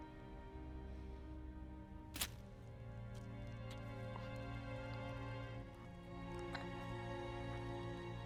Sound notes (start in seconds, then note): 2.1 flesh squelches